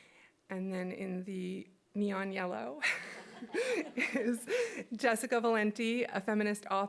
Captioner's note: chuckles